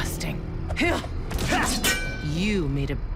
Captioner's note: both grunt